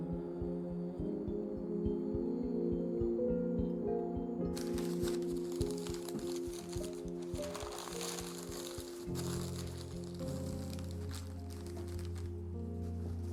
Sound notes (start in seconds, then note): 0.3 somber humming music; 4.5 papers rustling